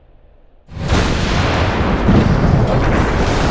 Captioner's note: loud crash